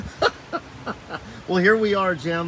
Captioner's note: laughs heartily